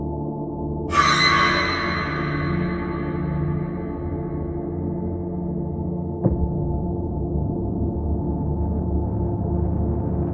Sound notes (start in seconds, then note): 0.9 scary screech